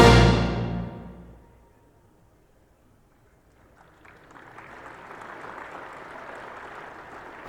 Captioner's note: applause